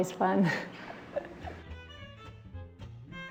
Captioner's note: laughs; upbeat jazzy music